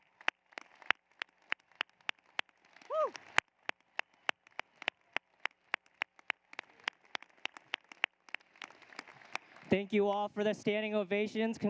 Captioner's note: applause